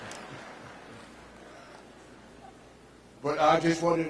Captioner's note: people laughing